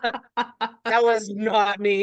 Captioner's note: laughs